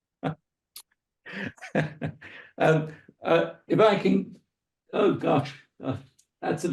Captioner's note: laughs